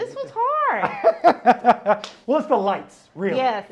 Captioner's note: laughs